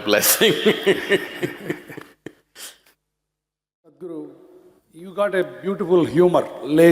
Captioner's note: laughs